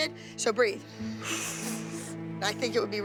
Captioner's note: exhales